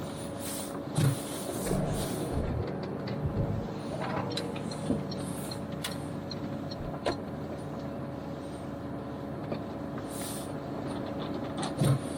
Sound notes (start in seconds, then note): 1.5 engine revs and indicator clicking noise